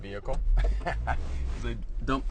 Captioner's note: laughs